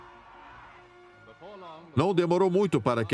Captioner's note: voiceover